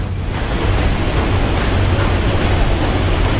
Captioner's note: waves crashing; dramatic lively music continues